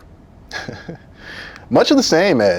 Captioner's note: chuckles